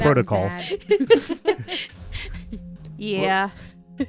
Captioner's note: laughter